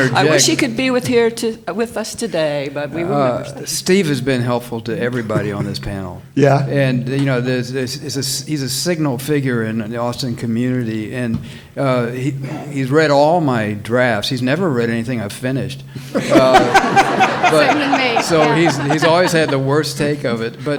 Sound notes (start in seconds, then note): 16.1 all laughing